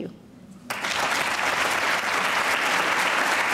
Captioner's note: applauding